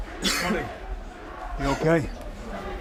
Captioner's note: fans chanting; coughing